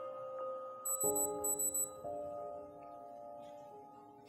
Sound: device beeps

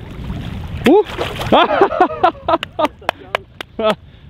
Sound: laughs

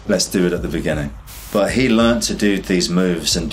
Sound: air whooshes

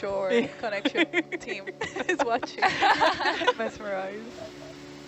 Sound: diver laughing; divers cracking up

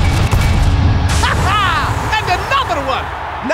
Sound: laughs

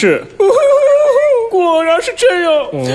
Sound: sobbing

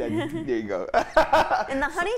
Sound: laughing

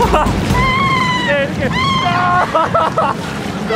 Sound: she's just screaming

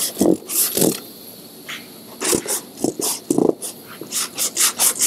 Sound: sharp scratching sounds

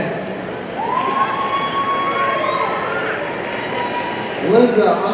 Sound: audience cheering

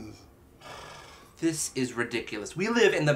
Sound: sighs

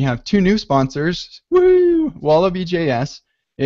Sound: yells excitedly

